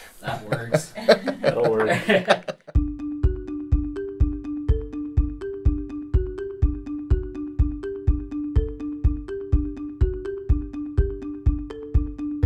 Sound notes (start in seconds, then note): 1.9 laughter; 2.6 instrumental music